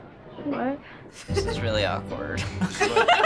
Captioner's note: both laughing; laughing